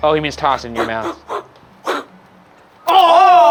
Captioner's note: imitates whooshing